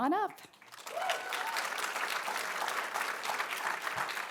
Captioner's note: all clapping